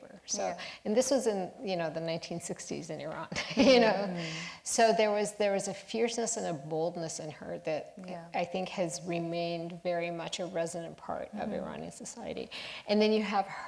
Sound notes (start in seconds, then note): 4.2 laughs